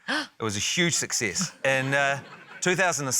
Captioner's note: gasps; laughter